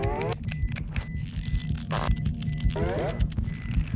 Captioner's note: machine beeping